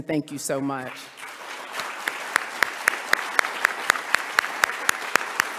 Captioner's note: audience applauding